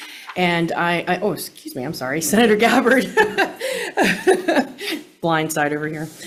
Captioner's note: laughs